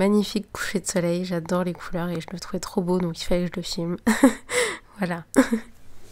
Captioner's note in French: rires